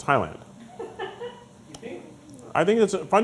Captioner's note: laughing